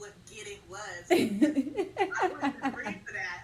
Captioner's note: laughs